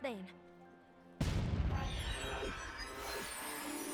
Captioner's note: boom!